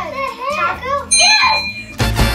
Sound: ding

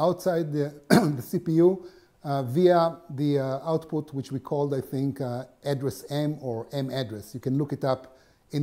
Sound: cough

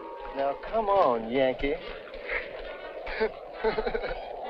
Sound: laughing

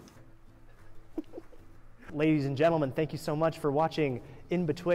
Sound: laughs

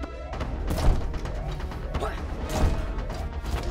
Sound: body slams

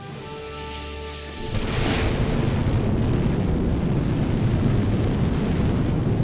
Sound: space Shuttle rockets ignition

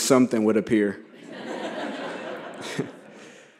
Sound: laughter

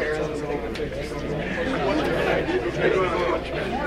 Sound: crowd murmuring

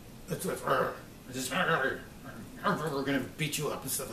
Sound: murmurs

